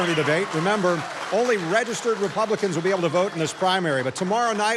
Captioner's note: cheering